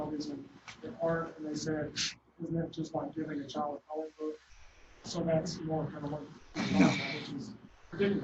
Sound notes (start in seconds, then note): 6.8 laughter